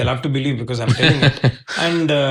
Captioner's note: laughing